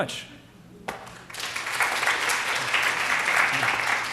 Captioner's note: applause